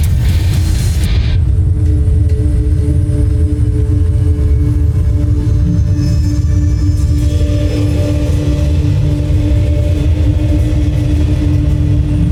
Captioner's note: music fades; molten surge rumbles; mystical music playing